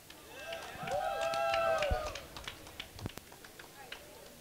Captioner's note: cheering